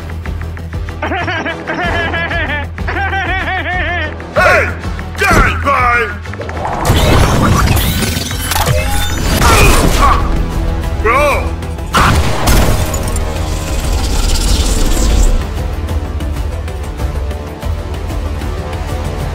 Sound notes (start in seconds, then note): 0.9 evil laugh; 6.6 kingsman charging noises